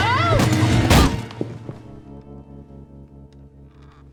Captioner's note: loud thud